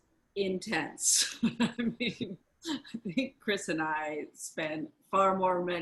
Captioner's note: laughs